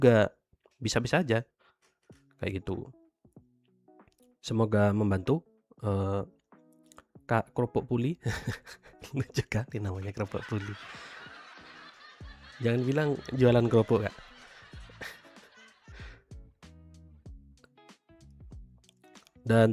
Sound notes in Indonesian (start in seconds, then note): 10.1 tertawa